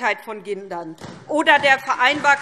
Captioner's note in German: Beifall SPD